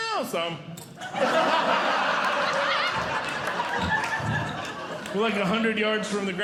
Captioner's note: audience Laughing